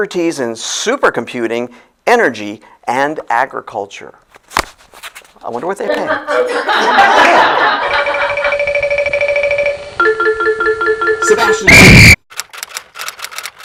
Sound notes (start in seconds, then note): 7.7 SFX: Computer tabulating; 11.8 SFX: Referee’s whistle. Typewriter